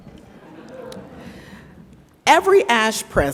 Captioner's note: audience laughs